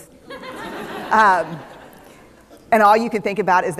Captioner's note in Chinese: 笑聲